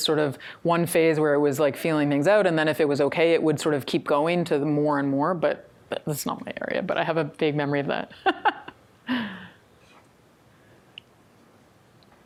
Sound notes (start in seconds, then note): 8.2 chuckles